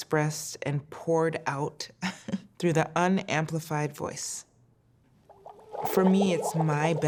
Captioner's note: chuckles